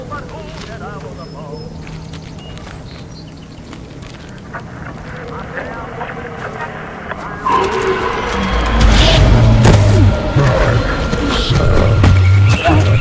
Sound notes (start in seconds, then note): 6.8 radio scratching; 7.5 thudding; 8.3 dramatic music